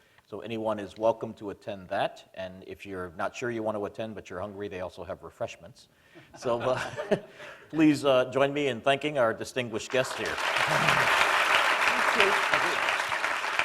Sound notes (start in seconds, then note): 9.9 applause